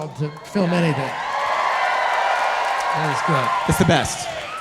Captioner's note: audience cheering